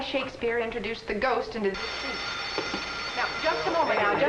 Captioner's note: bell rings